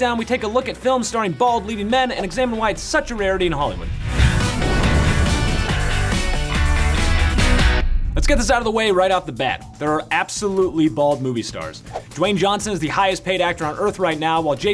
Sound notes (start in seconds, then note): 3.9 flame roars; 5.0 pop music